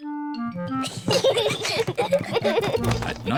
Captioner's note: peppa and george giggling